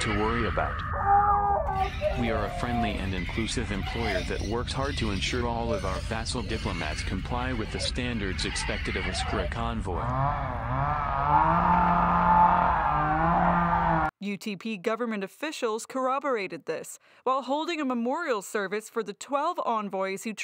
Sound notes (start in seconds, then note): 0.0 distinctly worrying screams in background; 10.0 friendly and inclusive chainsaw sounds, screaming